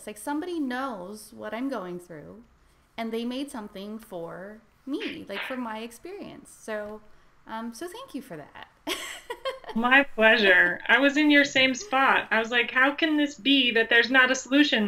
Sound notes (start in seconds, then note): 9.1 laughs